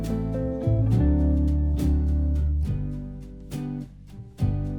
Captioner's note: none